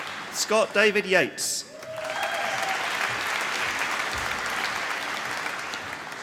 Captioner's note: applause